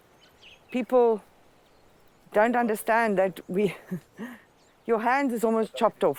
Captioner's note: laughs